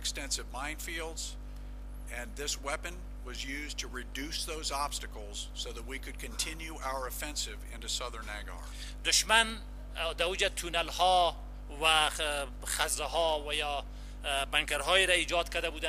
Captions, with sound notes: and extensive minefields ang this weapon was used to reduce those obstacles so that we could continue our offensive into Southern Nangarhar. (translator speaking in foreign language)